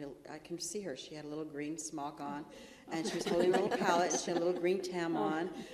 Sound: laughter

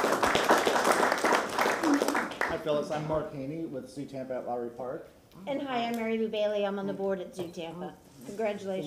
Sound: applause

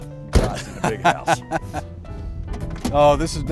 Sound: chuckles

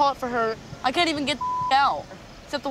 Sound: beep

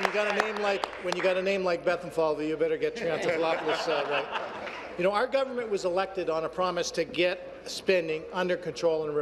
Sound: applause

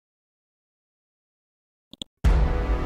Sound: clicks mouse; dramatic chord

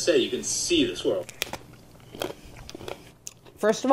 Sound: softly crunching

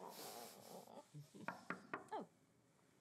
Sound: knocking on door

